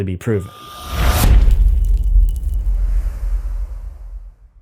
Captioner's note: impact